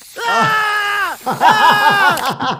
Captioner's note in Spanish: Stewie gritando; riendo